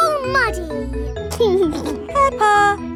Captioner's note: giggling